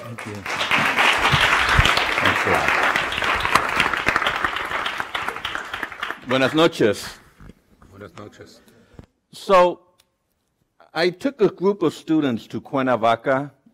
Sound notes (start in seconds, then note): 1.5 applause